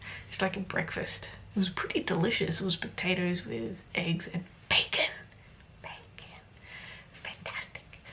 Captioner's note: whispers